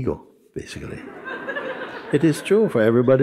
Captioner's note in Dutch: gelach